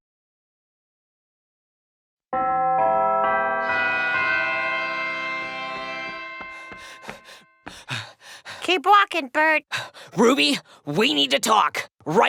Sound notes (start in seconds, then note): 2.4 bell chimes